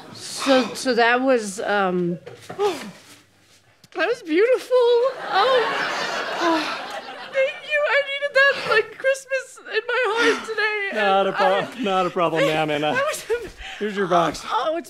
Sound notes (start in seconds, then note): 7.5 crying